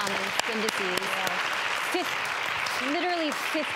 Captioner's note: audience applause